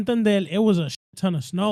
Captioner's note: speaking In Foreign Language